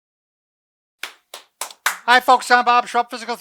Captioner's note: claps